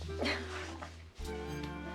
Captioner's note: giggles